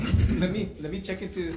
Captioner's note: laughs